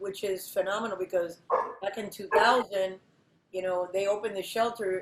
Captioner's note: dog barks